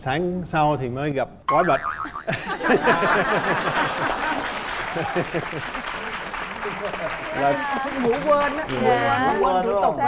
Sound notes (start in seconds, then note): 2.0 laughing and applause